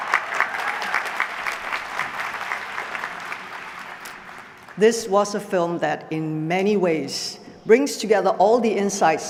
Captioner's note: applause